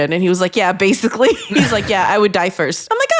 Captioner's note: chuckle